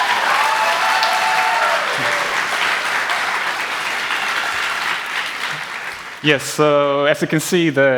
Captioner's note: applause